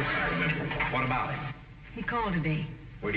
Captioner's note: audience snickering